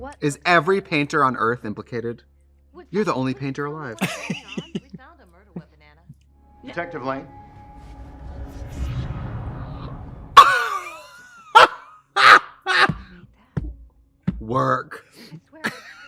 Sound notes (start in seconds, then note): 4.0 Katya laughs; 10.6 Trixie guffaws; 13.7 Katya thumps sofa; 15.6 coughs